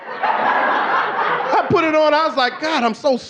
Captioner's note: audience laughing